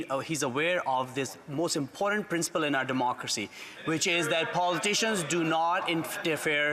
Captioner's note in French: voix de l'interprète